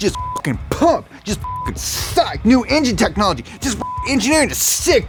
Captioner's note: beep; beep